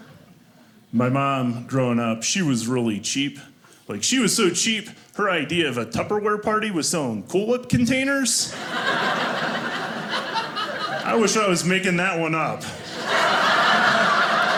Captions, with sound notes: My mom growing up, she was really cheap. Like, she was so cheap. Her idea of a tupperware party, was selling cool whip containers. (audience laughing) I wish I was making that one up. (audience laughing)